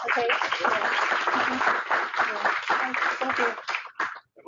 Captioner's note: applause